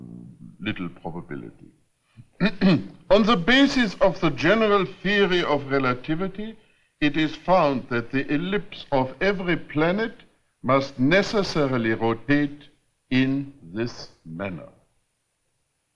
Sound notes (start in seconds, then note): 2.2 clears throat